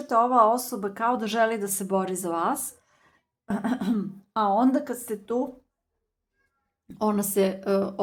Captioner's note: coughs